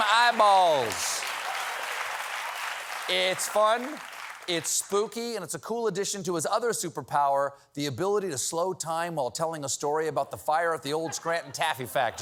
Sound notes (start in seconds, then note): 3.3 applause